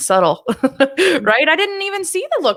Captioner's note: laughs